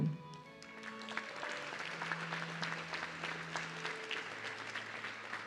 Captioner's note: audience clapping